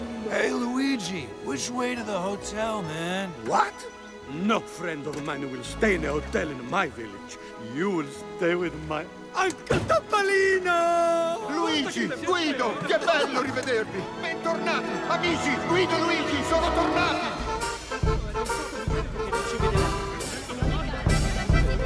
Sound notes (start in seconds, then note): 12.9 speaking foreign language; 17.5 spirited music